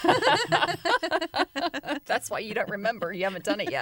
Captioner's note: laughter